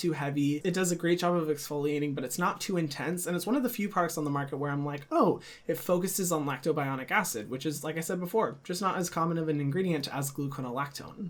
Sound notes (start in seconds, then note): none